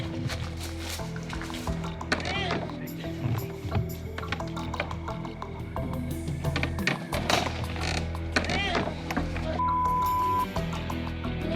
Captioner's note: grunting